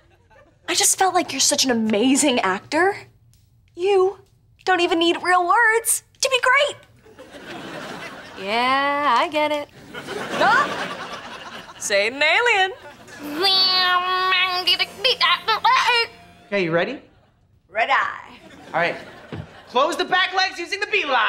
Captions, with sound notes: I just felt like you're such an amazing actor. You don't even need real words to be great. Yeah, I get it. Say it in Alien. [talking in Alien] Are you ready? -Ready. -All right. Close the back legs using the B line!